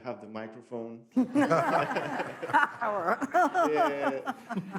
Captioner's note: all laugh